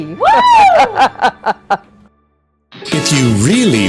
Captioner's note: laughs